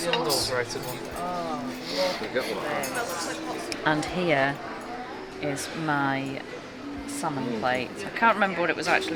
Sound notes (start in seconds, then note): 0.6 appreciative noises